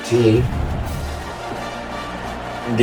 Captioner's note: crowd Noises